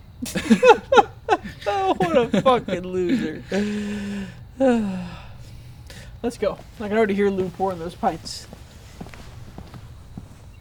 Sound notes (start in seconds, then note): 0.0 chuckling; 4.6 sighing